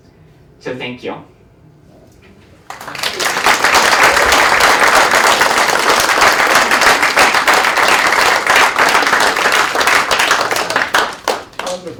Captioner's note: applause